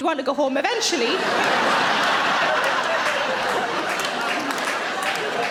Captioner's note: audience laughing